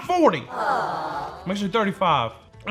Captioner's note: crowd disbelief sound